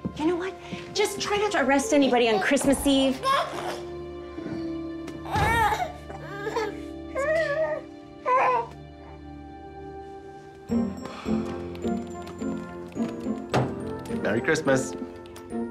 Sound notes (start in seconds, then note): 5.2 baby gurgling and fussy